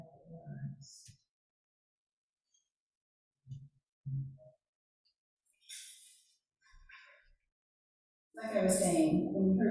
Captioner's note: silence